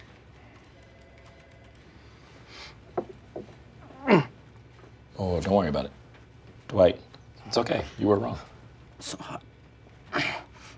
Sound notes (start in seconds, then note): 3.9 grunts; 10.6 grunts